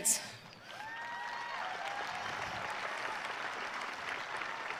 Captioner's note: audience cheering